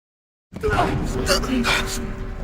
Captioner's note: groaning